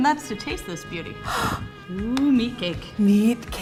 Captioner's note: gasps